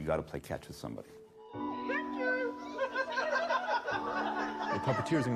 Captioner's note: laughing